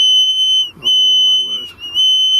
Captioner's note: energy detector device beeping and whistling